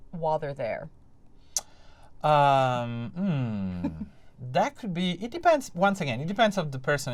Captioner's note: laughter